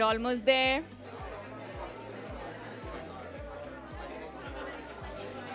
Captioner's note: chatter